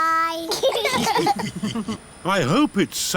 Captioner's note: laughter